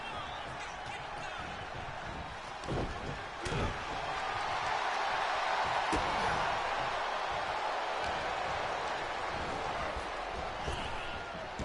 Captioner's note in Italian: Applauso; Applauso